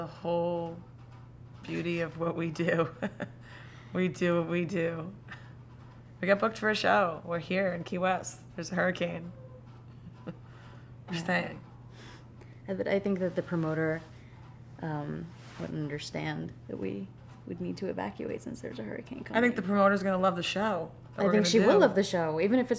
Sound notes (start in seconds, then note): 9.9 laughs